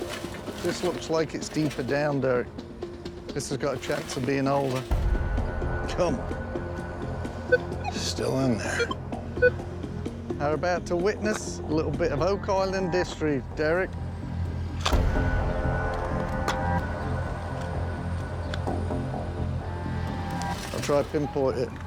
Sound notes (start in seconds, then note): 6.8 beeping